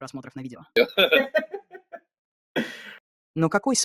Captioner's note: both laughing